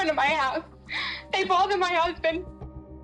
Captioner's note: sobs